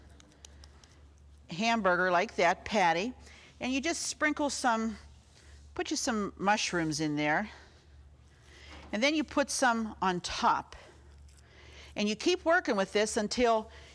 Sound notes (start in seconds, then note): none